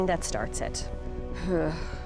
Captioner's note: sighs